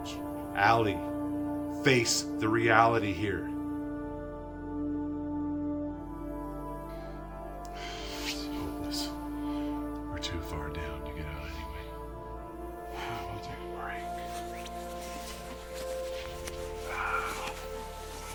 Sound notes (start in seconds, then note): 12.6 sighs; 13.6 fabric rustling